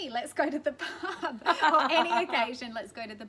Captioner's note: laughter